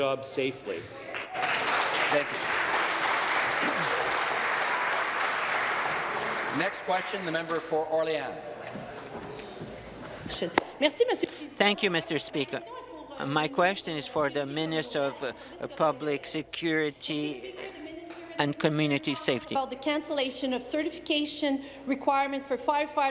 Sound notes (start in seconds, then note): 3.7 applause; 13.4 speaking in French